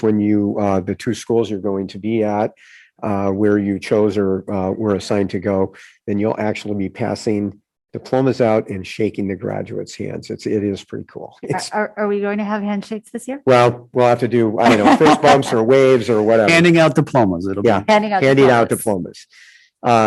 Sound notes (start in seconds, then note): 14.4 laughs